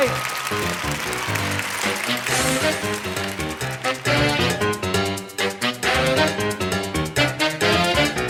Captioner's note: applause